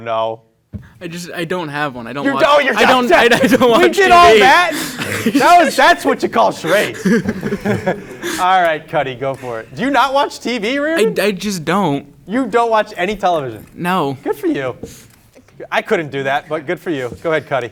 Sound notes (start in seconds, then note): 8.2 laughing